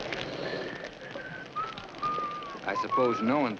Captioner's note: fire crackling; Judge Crenshaw whistles